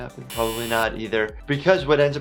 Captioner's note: buzzer